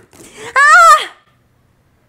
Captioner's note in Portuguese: grito